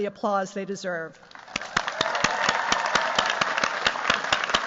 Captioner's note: cheers, applause